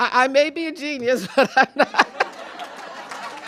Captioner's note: chuckles; applause